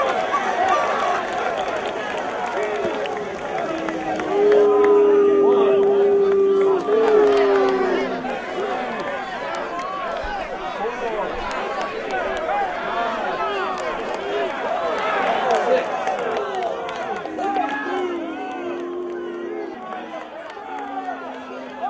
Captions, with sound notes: [applause] [crowd booing] One, two, three, four, five, six-- [crowd cheering]